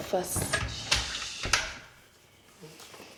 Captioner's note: closing door